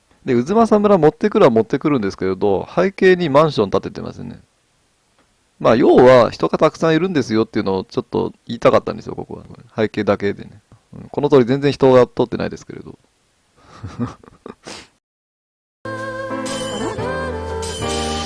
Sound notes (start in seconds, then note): 13.6 laughs